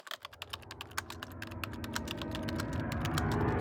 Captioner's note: typing